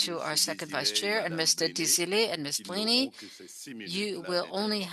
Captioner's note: speaking French